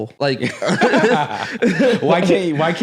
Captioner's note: both laughs